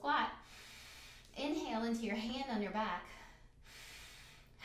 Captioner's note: breathes in; breathes in; breathes out